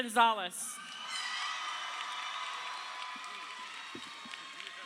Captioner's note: crowd cheering